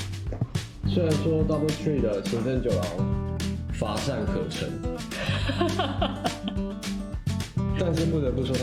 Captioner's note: laughs